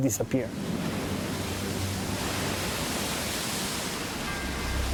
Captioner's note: waves crash